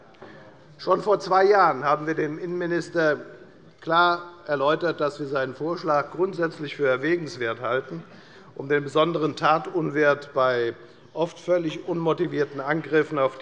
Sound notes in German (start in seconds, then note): none